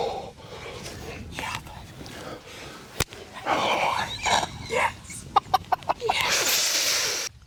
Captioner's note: whispering